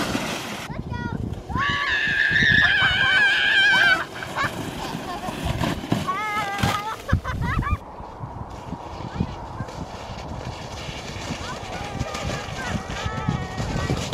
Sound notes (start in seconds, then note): 1.4 kids screeching and laughing